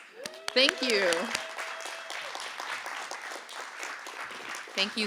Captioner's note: applause